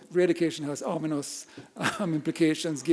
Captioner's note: chuckles